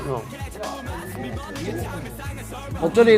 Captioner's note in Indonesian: Nom nom